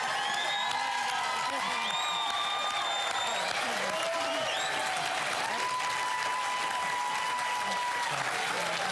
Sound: crowd cheering; applause; cheers and applause

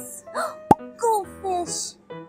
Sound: gasp

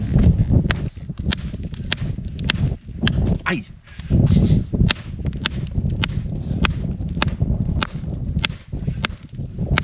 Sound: hammer blows

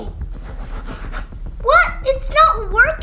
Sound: pen scratching

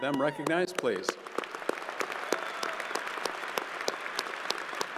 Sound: crowd applauding

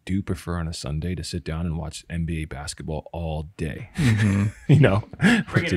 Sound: laughs

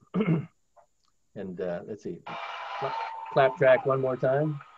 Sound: crowd applauds

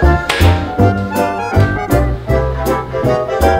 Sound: claps legs

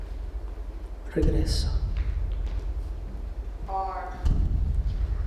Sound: speaking in Spanish; tense pounding

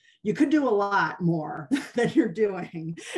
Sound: laughter

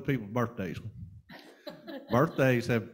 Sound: panel laughing

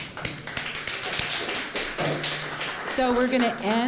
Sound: applause

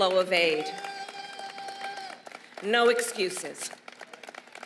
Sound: applause

